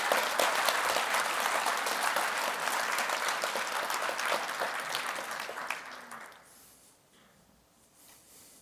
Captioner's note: applause